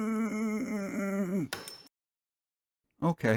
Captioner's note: ping